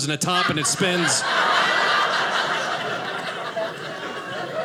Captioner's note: audience laughing